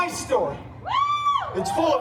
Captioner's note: guests cheering